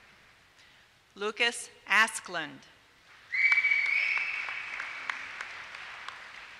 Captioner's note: applause